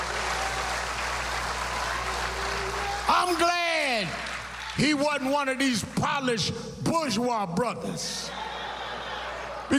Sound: cheers and applause

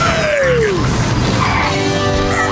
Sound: skidding

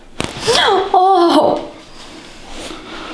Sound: the girl screams after massage

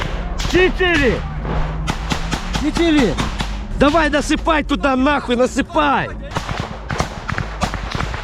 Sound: chatter; shooting

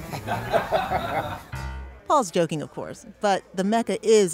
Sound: laughter

